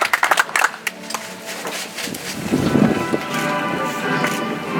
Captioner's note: audience applauds